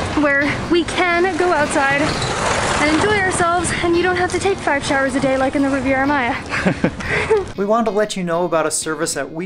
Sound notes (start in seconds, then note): 6.4 both chuckling